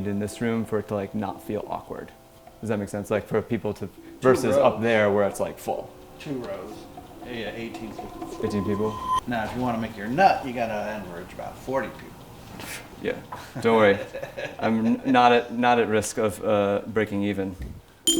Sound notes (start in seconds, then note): 13.8 laughs